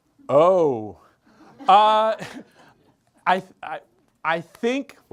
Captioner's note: group members laugh